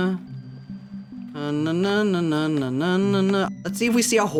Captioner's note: humming